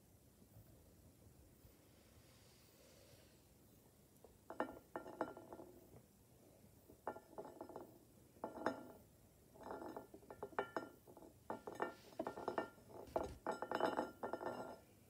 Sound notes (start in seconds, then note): 4.4 bowl rolling on table and clinking against plate